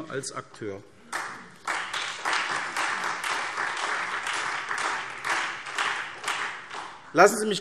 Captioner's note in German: Beifall SPD, Freie Demokraten und DIE LINKE